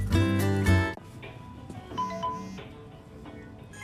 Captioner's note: phone sounder